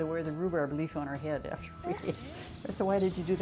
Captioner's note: laughing